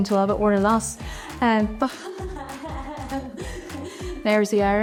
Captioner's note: laughs